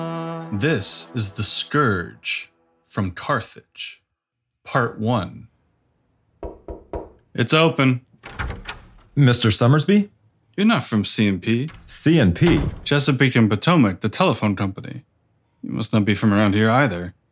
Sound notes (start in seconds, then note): 6.4 three knocks on a wood and glass office door; 8.2 the office door opens